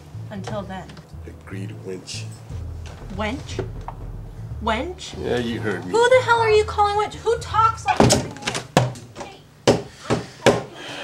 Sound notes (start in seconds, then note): 8.5 door slams; 10.0 knocks thudding